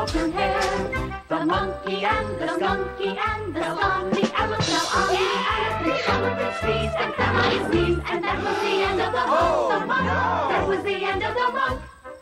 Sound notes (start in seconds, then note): 9.1 gasps